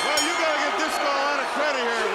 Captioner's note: bell ringing; crowd cheering